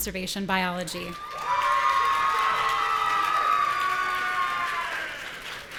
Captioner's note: audience cheering